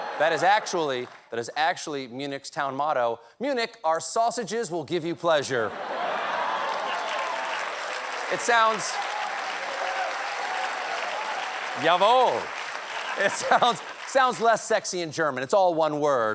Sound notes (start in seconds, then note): 5.7 laughter; 5.8 applause